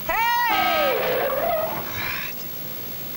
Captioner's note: tires screeching; horn honking